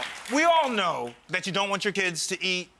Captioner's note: audience applause